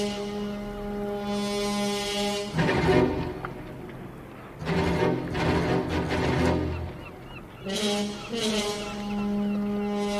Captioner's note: seagulls cawing